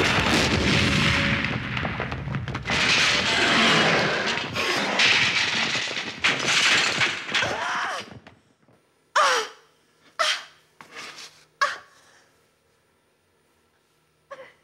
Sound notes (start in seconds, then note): 0.0 explosion roars; 3.4 Donald growling; 3.4 rubble clattering; 7.6 Anna grunting; 9.1 Anna gasping